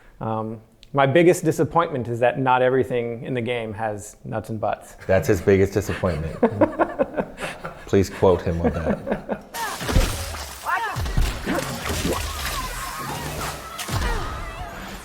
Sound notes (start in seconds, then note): 6.4 laughing; 9.5 grunting; 11.5 gunshots